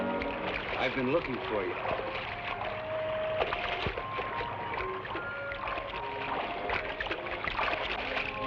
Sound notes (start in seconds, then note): 2.7 water splashes